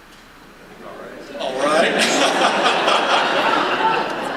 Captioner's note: laughter